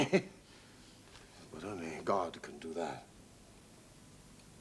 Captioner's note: laughs